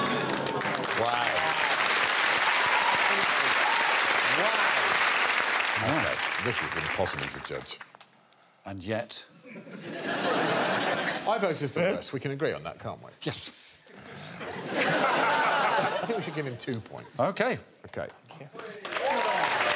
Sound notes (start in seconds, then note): 9.5 audience laughing